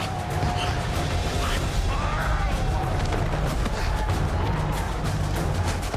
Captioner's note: grunting